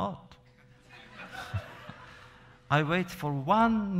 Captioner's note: laughter